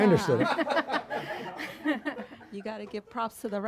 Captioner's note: audience laughs